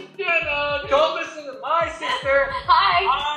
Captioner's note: chattering